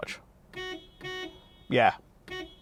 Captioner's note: horn honking